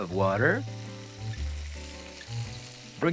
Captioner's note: sizzling